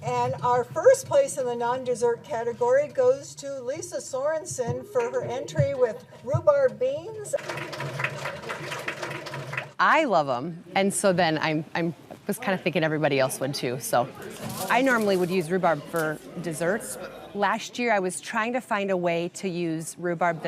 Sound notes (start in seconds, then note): 7.3 audience applauding